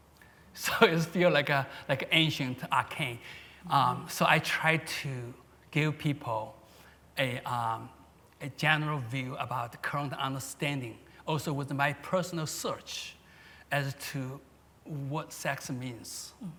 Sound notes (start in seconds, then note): none